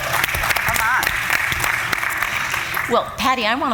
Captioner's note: applause